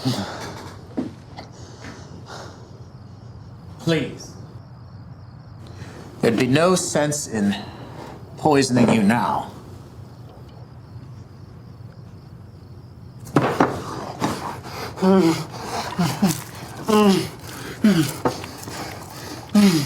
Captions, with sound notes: (Miles groans) Please. There'd be no sense in poisoning you now. (Miles pants and moans)